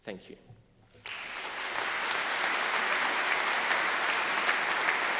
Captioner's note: audience applauding